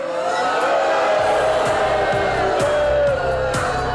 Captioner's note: booing